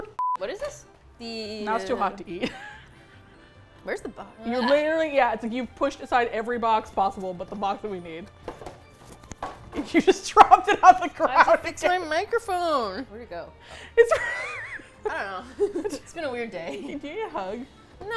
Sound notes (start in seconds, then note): 2.2 laughs; 9.7 laughing; 13.9 laughs